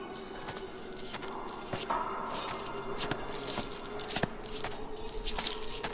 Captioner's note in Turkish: Ayak sesleri üzerinde zincir şıkırtısı